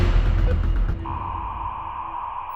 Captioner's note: modem hissing